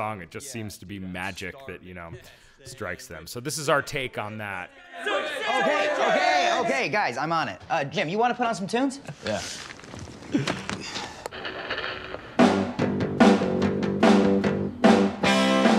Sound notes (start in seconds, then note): 11.3 radio static; 11.6 rock music playing